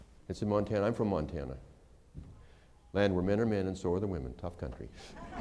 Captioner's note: laughter